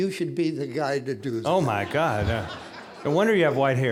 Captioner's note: audience laughing